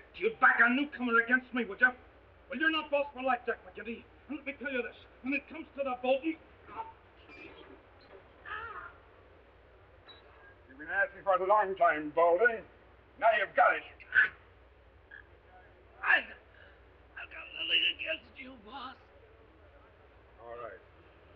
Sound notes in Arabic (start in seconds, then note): 8.3 تيد يتقيأ; 13.8 تيد يتقيأ; 15.8 يتنهد